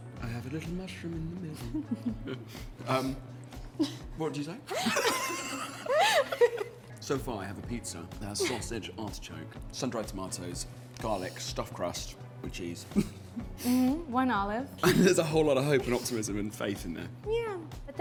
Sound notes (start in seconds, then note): 4.7 laughs